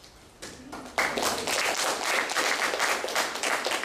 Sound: applause

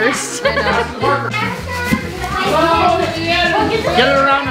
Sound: crowd noise

